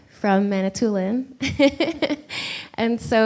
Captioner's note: laughs